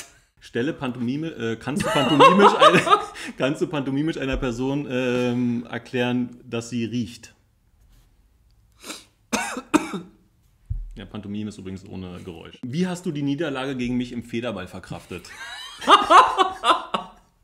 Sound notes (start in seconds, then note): 9.3 caughs; 15.4 laughs